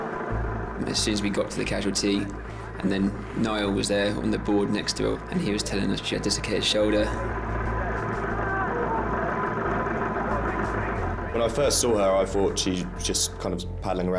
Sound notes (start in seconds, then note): 7.2 boat droning; 8.2 casualty groans